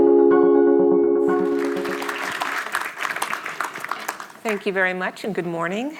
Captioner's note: audience applauding